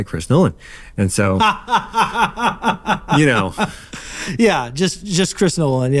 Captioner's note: laughing